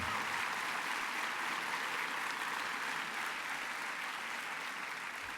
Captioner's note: applause